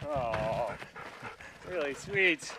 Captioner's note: dog panting